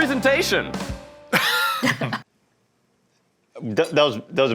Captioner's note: laughing